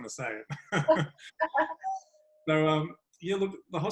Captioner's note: laughing